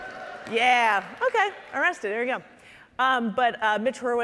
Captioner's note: audience cheering